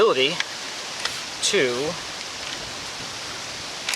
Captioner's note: wind whirring